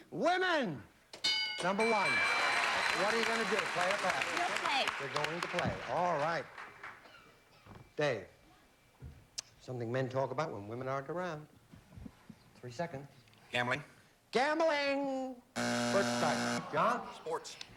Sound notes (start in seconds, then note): 14.0 buzzer